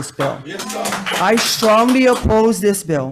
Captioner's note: audience applauds